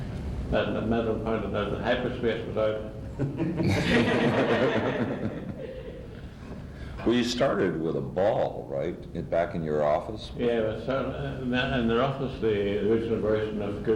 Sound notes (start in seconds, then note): 3.2 much laughter